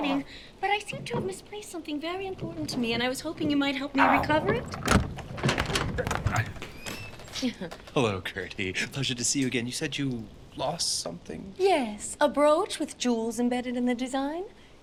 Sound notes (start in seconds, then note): 4.6 clattering; 5.5 Semprini grunts; 7.3 chuckles